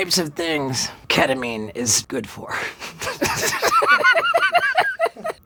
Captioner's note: laughs